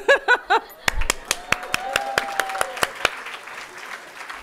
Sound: audience applauding

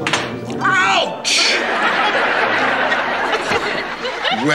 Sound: audience laughter

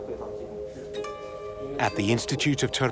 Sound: speaking Uyghur

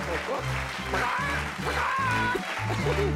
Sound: crows

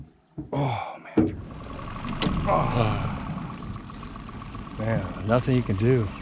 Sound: boat engine running

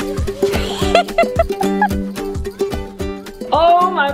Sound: laughs

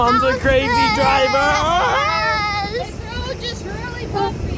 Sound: and Dad yelling

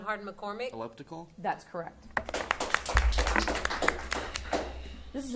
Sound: audience applauding

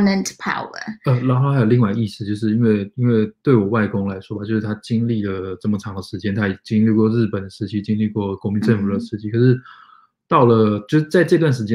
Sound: speaks mandarin

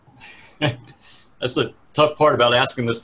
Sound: laughs

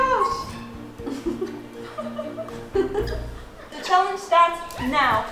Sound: laughter

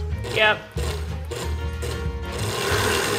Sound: blender pulsing; upbeat music

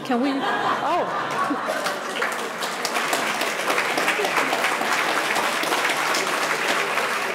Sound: audience laughing; audience applauding

